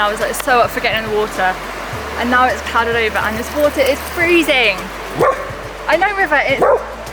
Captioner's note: barking